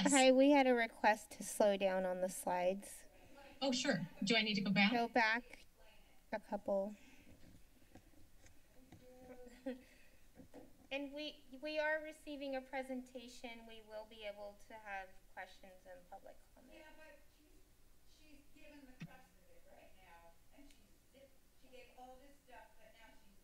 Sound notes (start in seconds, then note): 6.9 silence; 8.3 clicking sound; 9.1 chuckles